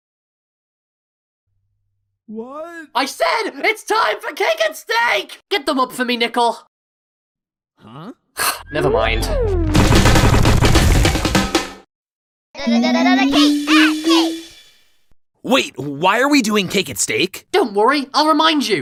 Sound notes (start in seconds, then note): 8.6 sigh